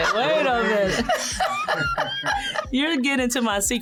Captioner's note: laughs